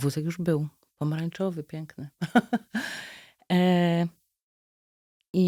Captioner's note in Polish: śmiech